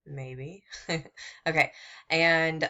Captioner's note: laughing